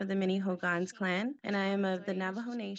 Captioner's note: speaks in Navajo language